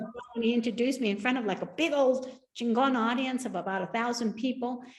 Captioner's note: speaks Spanish